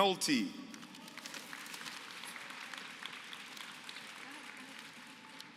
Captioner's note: applause